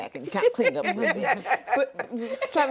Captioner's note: laughs